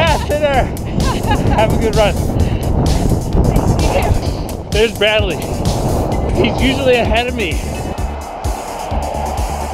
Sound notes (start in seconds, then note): 0.9 laughing